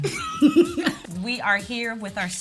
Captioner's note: Kellita laughs